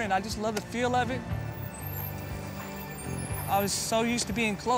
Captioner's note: brakes squeak